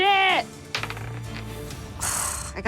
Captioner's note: dice rolling; sighs